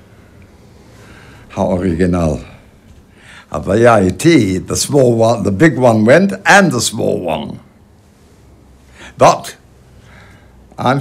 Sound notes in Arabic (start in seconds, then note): 1.7 يتحدث بلغة أجنبية